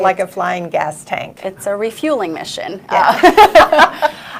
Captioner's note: laughs